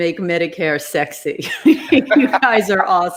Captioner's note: laughing